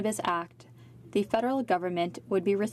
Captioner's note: speaking french